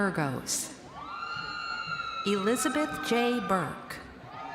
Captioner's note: crowd cheering